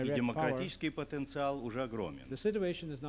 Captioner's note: non-english speech